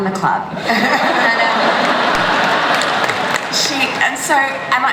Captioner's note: laughter